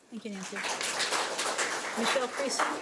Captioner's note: audience applauds